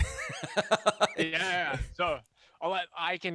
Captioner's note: laughs